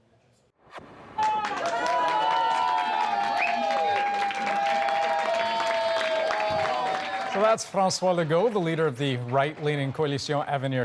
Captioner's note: applause